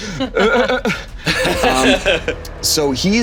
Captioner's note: all laughing